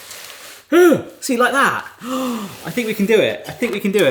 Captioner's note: gasps